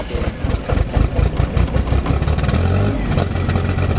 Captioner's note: engine rumbling